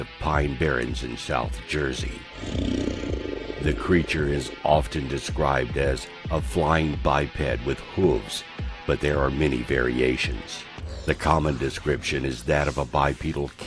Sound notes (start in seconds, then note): 2.2 Devil growls